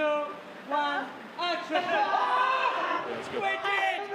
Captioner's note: all screaming